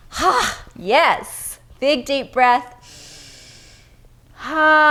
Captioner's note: inhales breath